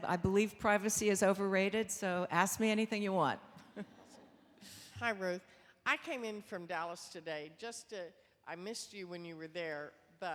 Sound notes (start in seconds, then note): 3.6 chuckles